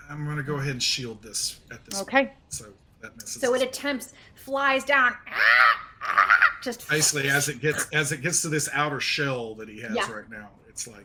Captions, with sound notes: - I'm gonna go ahead and shield this at this point. So that misses. - Okay, so it attempts, flies down, (squawks) just basically. - As it gets to this outer shell that he has right now,